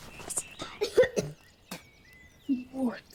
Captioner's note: Oliver coughing and spitting